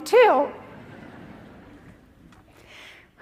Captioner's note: laughter